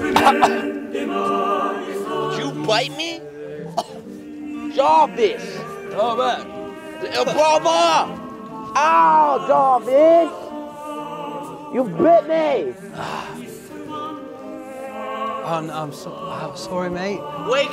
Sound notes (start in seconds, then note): 0.0 coughing; 3.6 coughing